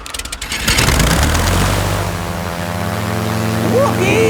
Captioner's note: plane humming